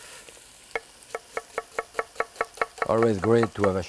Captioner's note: knife tapping